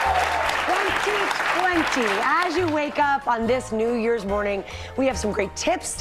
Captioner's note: cheers and applause